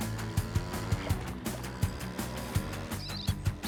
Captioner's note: motor revving; chittering